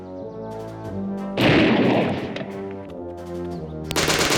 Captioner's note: gunshot bangs; gunfire rattling